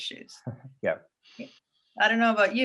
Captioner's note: chuckles